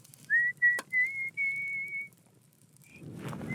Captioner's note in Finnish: vihellys